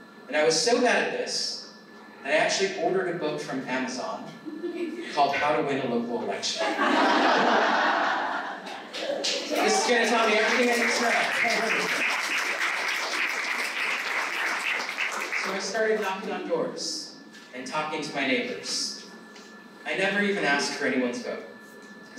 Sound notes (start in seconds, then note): 6.6 laughter; 12.4 applause